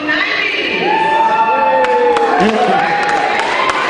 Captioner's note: cheering